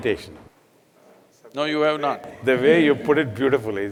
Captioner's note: laughs